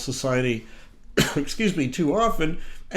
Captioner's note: coughs